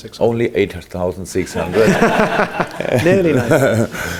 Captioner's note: general laughter